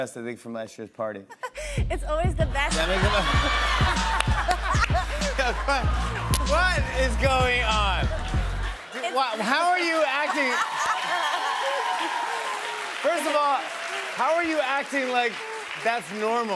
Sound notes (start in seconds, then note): 3.1 laughter and applause; 10.9 cheers and applause